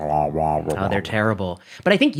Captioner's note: groaning